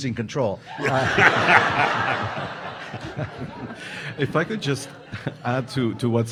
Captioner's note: audience laughing